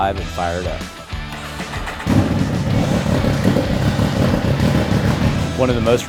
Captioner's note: engine Starting & Revving Up